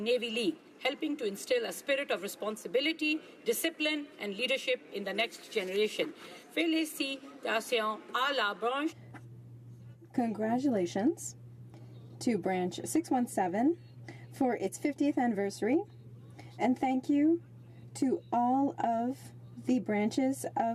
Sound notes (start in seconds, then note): 12.6 speaking french